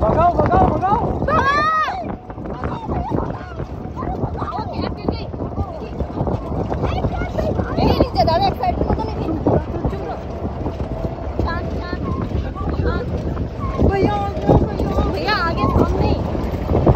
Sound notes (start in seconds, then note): 1.3 almost crying